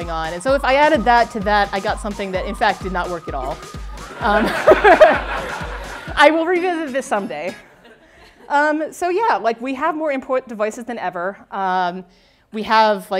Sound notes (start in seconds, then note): 4.1 laughter